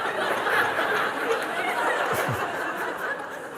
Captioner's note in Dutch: gelach